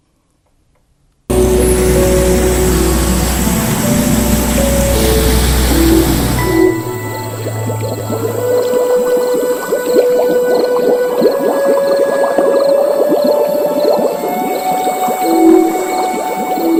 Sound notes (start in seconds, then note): 1.5 ambient music; 6.7 crickets chirp and water bubbles